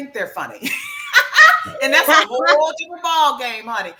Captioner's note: laughs